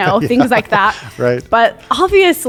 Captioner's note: chuckles